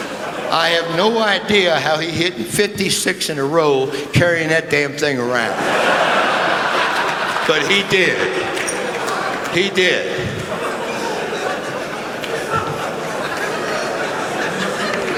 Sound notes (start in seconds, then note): 0.0 laughter; 6.2 laughter; 11.2 laughter